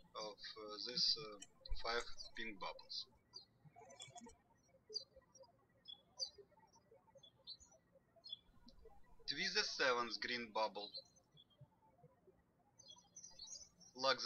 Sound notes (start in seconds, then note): 4.1 birds chirping